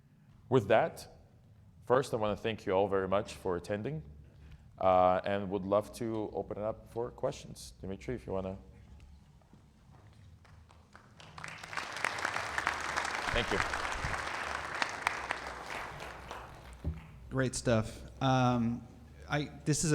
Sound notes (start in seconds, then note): 10.4 audience clapping